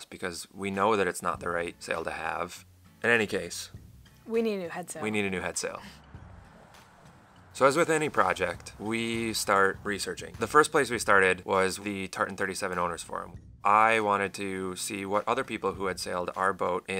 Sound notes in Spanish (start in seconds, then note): 4.5 Al unísono